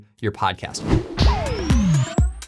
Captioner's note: graphic whooshing; upbeat music